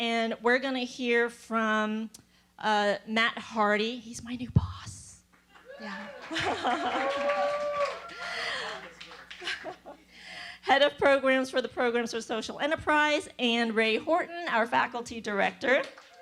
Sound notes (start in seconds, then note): 5.6 laugh; 5.8 applause; 15.8 applause